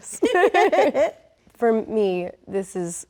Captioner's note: Rachel laughs; laughs